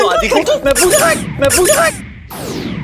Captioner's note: Squeaking